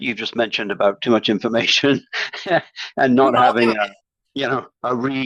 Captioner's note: chuckles